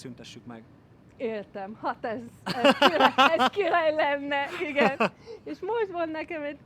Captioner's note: laughing